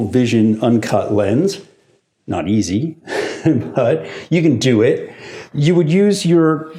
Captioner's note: laughs